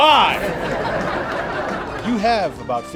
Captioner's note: canned laughter